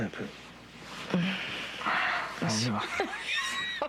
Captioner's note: rires